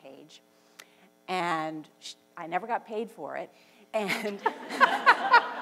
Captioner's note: laughs